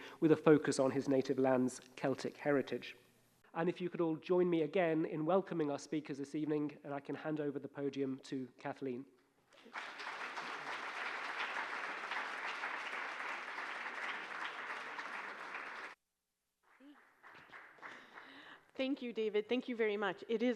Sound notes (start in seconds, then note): 9.6 audience applauding